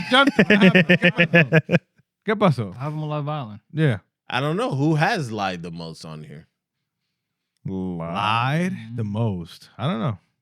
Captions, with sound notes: (Laughter) (Non-english Speech) I'm going to love Island. Yeah. I don't know who has lied the most on here. Lied the most? I don't know.